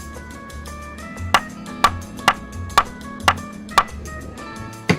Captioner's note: wood tapping